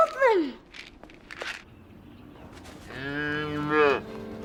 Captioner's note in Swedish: piller skramlar